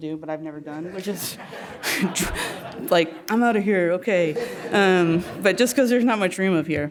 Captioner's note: laugh